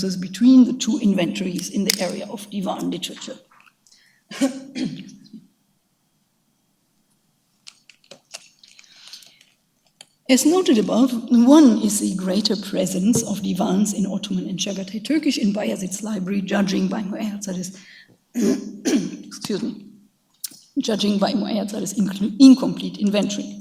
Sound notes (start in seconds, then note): 4.3 coughing; 14.5 speaks in a foreign language; 18.3 coughs